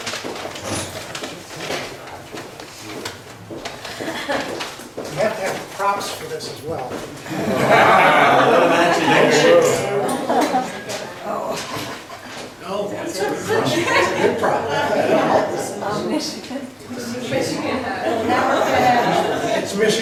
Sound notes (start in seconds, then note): 5.5 voiceover; 7.2 laughs; 9.2 overlapping chatter; 17.4 voiceover; 19.8 laughs